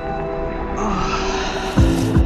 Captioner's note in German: Ächzen